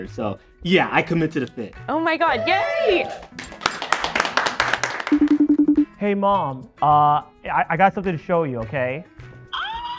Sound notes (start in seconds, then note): 2.9 all applauding; 5.1 phone ringing